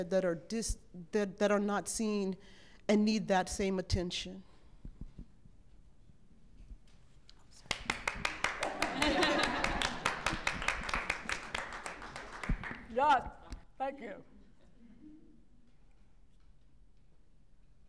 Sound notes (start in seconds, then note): 4.5 applause